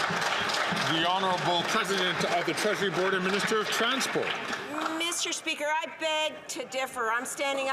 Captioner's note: some Applause